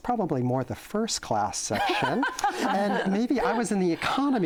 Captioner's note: laughter